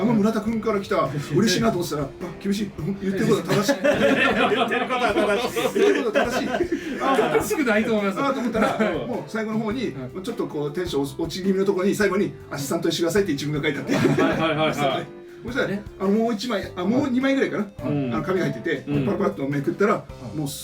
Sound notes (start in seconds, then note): 8.1 laugh